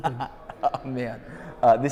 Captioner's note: laughs